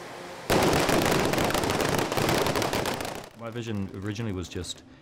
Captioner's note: intense small explosions